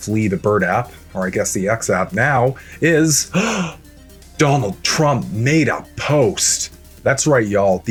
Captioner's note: gasp